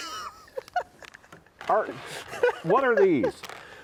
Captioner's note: laughs